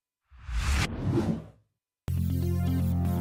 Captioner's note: air whooshing; techno music intro